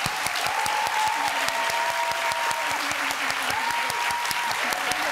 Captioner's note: audience cheers and applauds